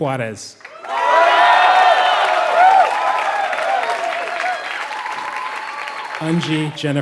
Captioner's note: applause